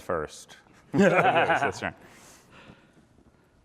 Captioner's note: laughter